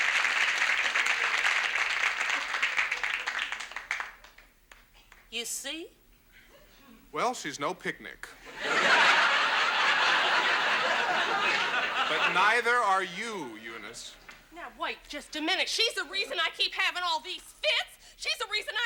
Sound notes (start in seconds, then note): 8.4 audience laughs